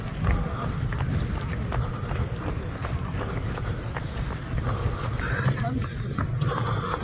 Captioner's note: breathing sound